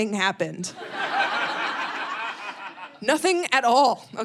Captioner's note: audience laughing